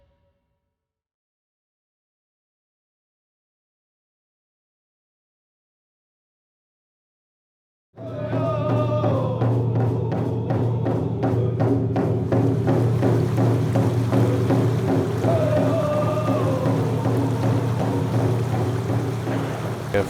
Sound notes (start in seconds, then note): 8.0 crowd chanting in native language